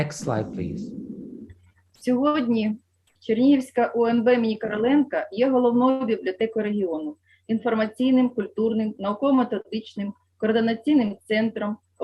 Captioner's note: foreign Language